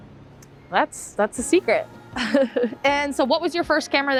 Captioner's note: laughs